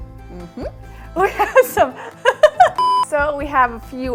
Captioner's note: laughs